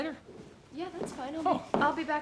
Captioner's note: none